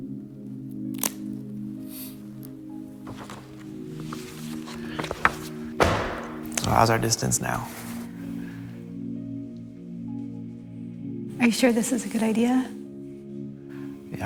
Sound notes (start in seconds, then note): 0.7 pages peeling; 5.8 echoing thud